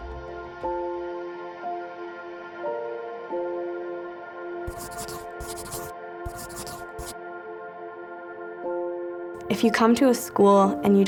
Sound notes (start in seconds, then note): 0.2 gentle music; 6.2 pencil scratching